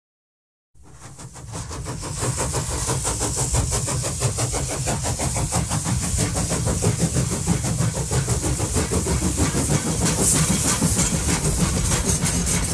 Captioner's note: train sound effects